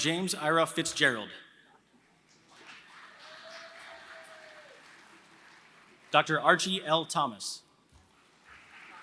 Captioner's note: applause; applause